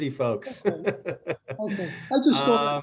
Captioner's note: laughter